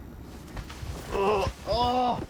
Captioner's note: groans